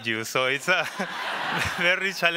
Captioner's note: laughing